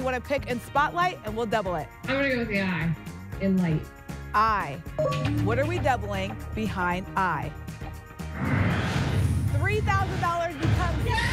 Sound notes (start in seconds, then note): 8.4 whoosh